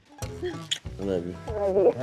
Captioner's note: smooch